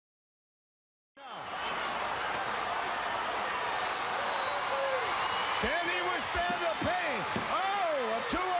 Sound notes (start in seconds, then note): 1.2 crowd cheering